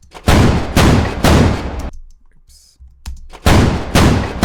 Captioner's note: multiple gunshots